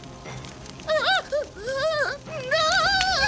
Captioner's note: gasping